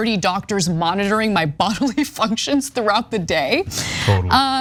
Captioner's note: laugh